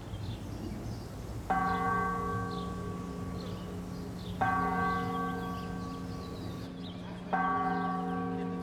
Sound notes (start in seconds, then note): 1.0 church bells chiming